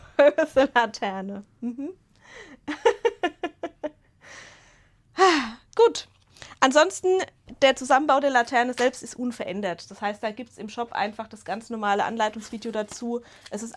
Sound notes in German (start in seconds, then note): 2.6 Gelächter; 5.2 seufzt